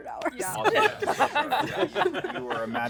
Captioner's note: laughter